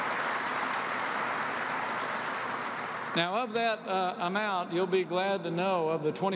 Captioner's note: applause